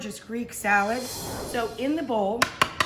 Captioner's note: whoosh